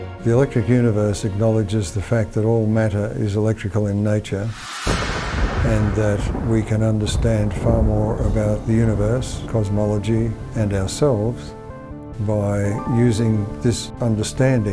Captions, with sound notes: - The Electric Universe acknowledges the fact that all matter is electrical in nature, (thunder booming) and that we can understand far more about the Universe, cosmology and ourselves by using this understanding